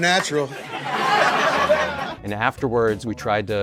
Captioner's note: audience laughs